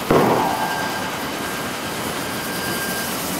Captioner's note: machine noise